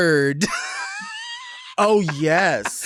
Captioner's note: Lady Bunny laughs